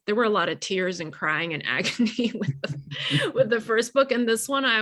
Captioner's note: laughing